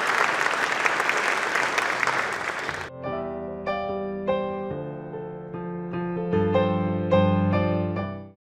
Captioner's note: applause